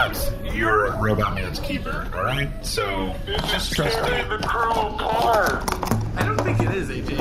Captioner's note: shouting